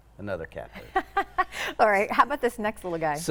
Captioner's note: laughing